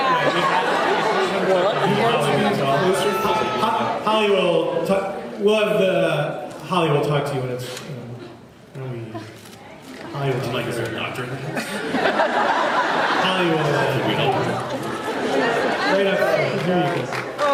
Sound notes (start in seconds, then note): 11.5 laughs